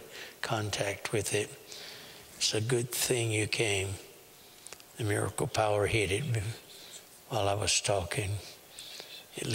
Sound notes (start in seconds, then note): 6.4 whispering; 8.6 whispering